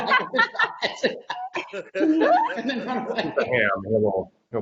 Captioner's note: laughing